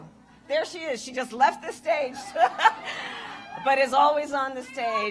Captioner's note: laughs